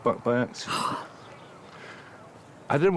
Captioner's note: gasps